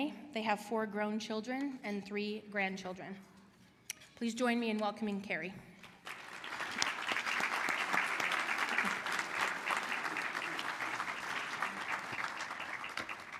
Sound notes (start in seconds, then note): 5.8 applause